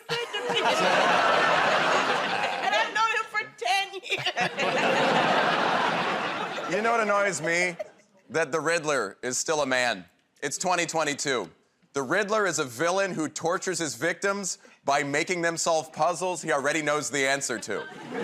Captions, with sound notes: -That's the nicest thing he's ever said to me. [ Laughing ] And I've known him for 10 years. -You know, what annoys me? That the Riddler is still a man. It's 2022. The Riddler is a villain who tortures his victims by making them solve puzzles he already knows the answer to.